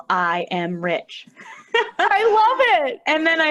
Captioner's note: laughter